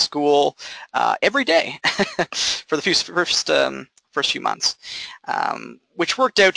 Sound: chuckling

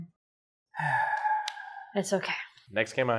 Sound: sighs

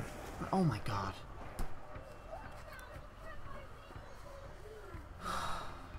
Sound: sigh

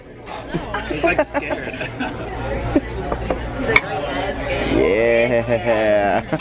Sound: laugh

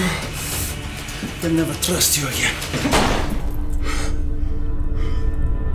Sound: gun firing

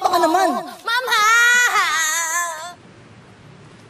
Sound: wails

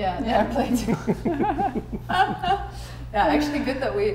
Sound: all laughing

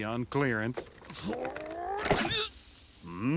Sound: sighing; grunting

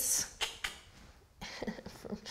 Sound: clicks tongue; laughs

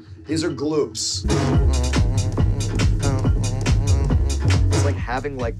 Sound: hums

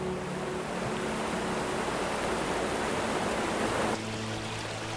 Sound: water falls; river trickles

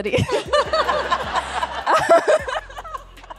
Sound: laughing

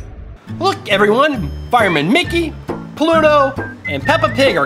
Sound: voiceover

